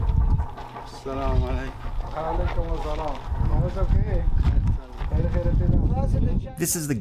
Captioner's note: men conversing in a foreign language